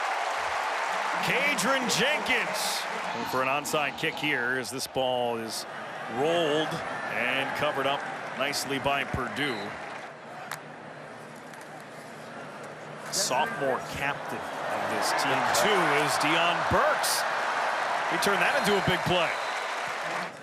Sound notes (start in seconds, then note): 3.9 cheering